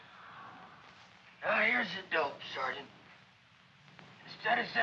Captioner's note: diminished voice